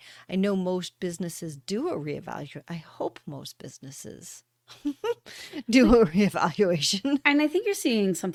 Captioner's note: laughter